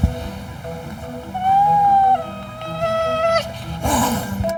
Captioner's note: Joey wailing; Joey snarling